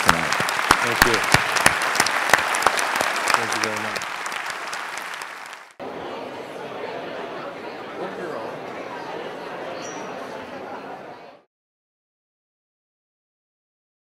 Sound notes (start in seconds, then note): 4.3 applause